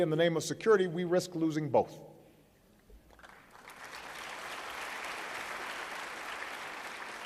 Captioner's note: applause